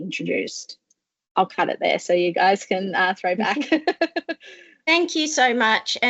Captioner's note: laughs